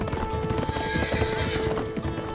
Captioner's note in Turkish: At kişneme sesi